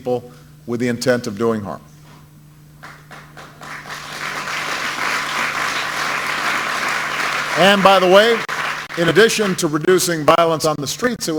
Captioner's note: applause